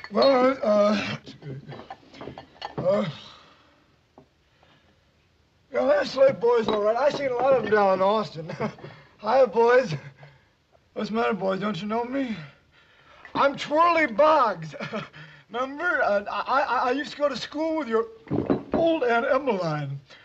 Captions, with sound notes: - Well. Uh... Well, they're the Slade boys, all right. I seen a lot of them down in Austin. (laughs) Hiya, boys. What's the matter, boys? Don't you know me? I'm Twerly Boggs. (laughs) Remember? I-I used to go to school with your old Aunt Emmeline.